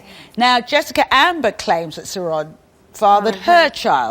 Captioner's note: none